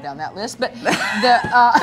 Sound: woman laughing

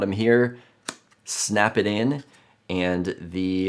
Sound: part snaps into place

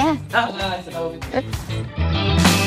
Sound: laughing

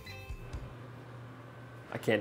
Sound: microwave beeping; microwave running

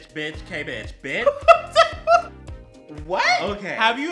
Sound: gay ass giggle

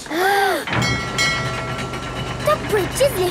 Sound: kids gasping; bell dinging

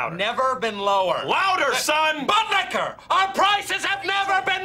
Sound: shouting

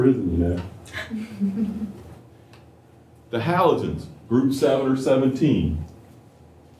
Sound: laughter

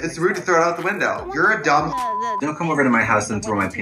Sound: beep

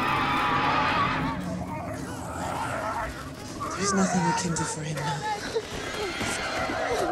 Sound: Char Voki screeches

